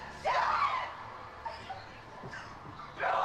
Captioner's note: Scarlet crying